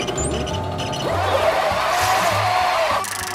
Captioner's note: groaning